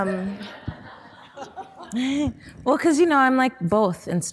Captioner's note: audience laughing